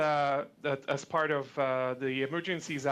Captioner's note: speaking French